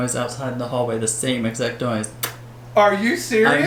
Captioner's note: kiss sound